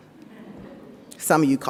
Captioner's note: audience laughs